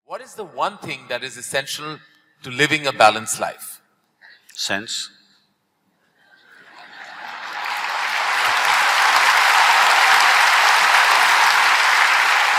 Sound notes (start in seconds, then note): 6.8 applause